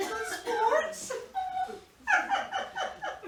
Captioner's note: laughs